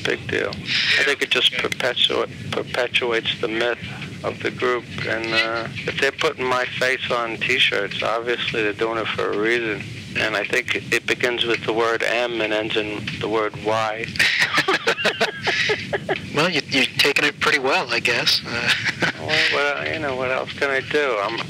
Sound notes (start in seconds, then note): 14.1 laughs